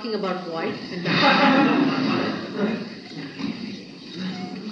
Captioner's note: laughter